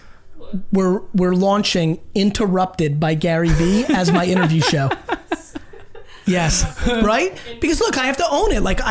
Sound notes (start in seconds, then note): 5.0 group laughs